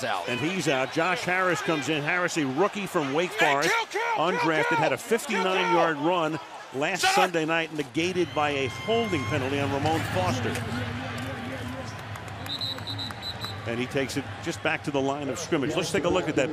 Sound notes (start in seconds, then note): 12.4 whistle blowing